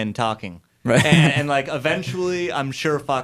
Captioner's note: laughs